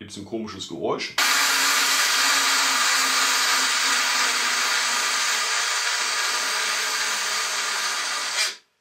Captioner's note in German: Motoren Geräusch